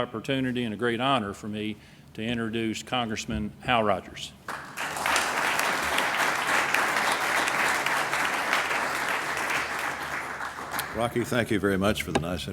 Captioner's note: applause